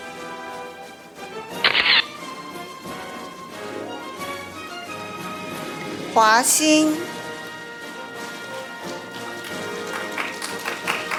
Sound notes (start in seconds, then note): 1.7 camera shatters; 2.5 orchestral music; 7.2 audience applauding